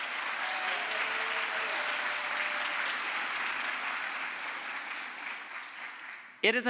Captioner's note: crowd applause